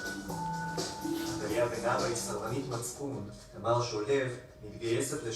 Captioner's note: upbeat music; man speaking foreign language